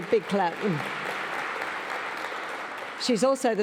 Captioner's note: audience applauds